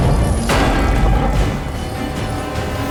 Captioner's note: grunt; clang